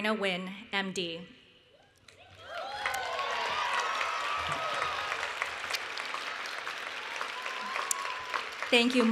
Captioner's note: cheering and Applause